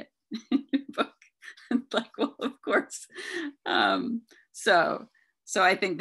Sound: laughs

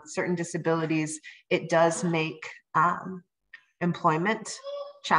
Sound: baby babbling

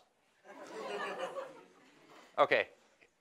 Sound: laughing

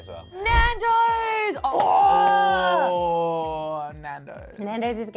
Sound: excited noises

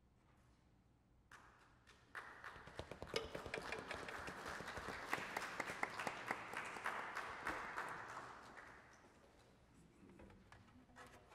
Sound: applause

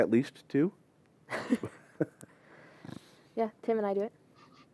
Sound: laughter

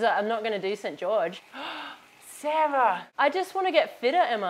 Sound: gasp

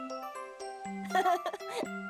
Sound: chuckles happily

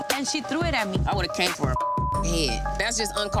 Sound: beep

